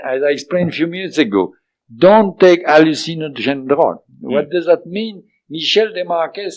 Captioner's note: French